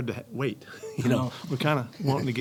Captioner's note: panel laughing